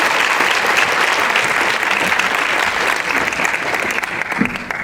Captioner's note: applause